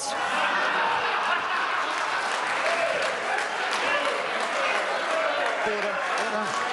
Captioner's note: members laugh